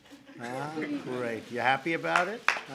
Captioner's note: laughter